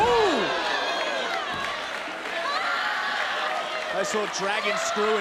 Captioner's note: audience cheers